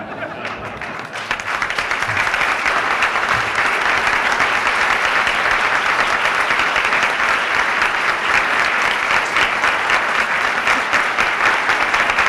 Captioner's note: laughter; applause